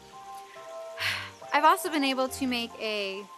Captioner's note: sighs